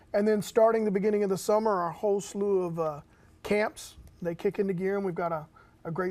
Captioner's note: none